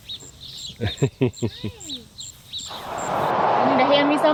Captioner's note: laughter